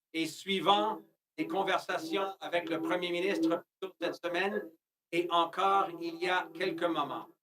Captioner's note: speaking French